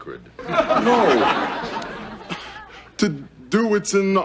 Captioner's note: audience laughing